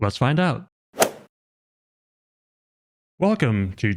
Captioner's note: golf ball hit sound effect